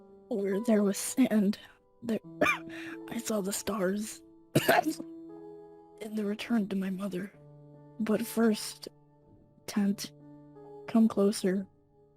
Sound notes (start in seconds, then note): 4.5 cough; 4.5 cough cough